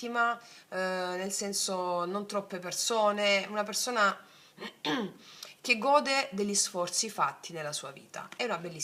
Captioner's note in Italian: schiarire la voce